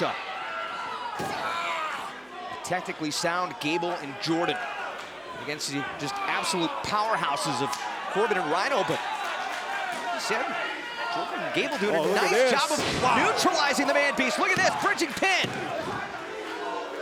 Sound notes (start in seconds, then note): 14.9 crowd chatter